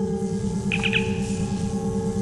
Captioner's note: comm chirp